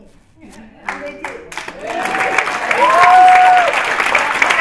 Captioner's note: cheering